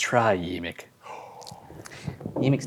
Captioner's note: gasps